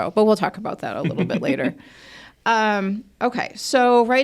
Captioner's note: speakers laugh